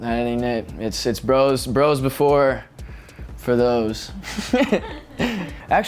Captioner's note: laughs